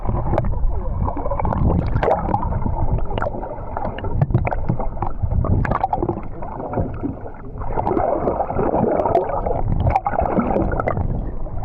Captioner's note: wind blowing